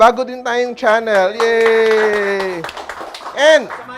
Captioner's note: applause